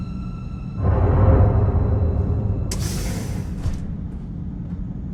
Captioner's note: eerie music; metal banging